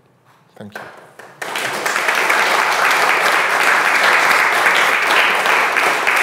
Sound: audience applauding

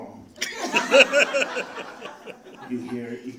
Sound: audience laughing

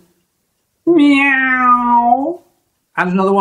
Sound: meow

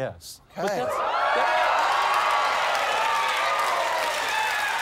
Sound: cheers and applause

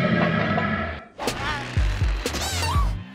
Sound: groaning

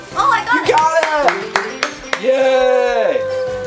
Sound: Mr. Engineer applauding; upbeat bright music

